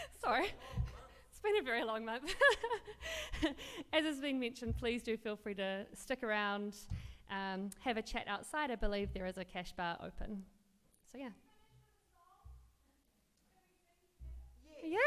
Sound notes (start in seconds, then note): 3.2 laughs